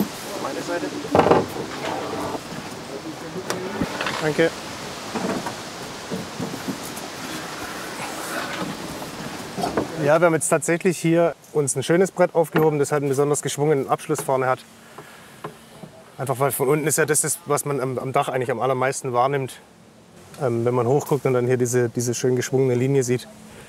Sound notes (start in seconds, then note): 6.9 rushing of leaves